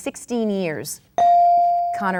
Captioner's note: bell dings